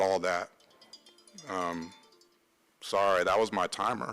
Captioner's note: phone chiming